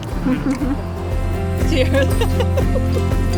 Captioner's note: laughing